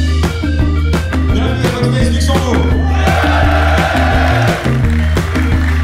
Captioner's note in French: acclamation de la foule